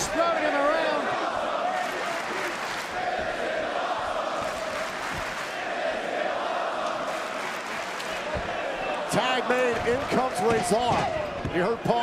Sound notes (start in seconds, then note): 2.4 crowd cheering